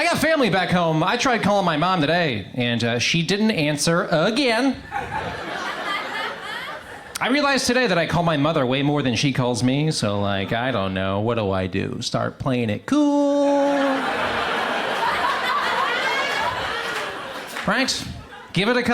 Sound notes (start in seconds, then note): 4.8 crowd laughs; 13.5 crowd laughs; 13.6 crowd applause